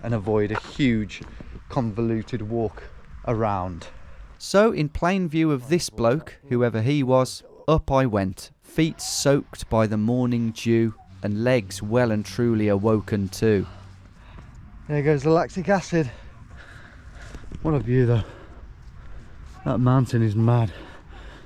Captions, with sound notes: and avoid a huge, convoluted walk around. So in plain view of this bloke, whoever he was up I went, feet soaked by the morning dew and legs well and truly awoken too, There goes the lactic acid. (breathes deeply) What a view though. That mountain is mad.